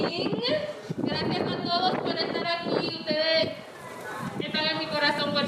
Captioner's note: speaking in foreign language